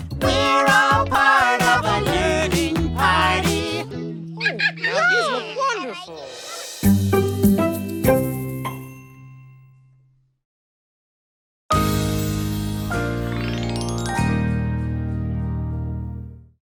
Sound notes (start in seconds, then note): 4.3 laughs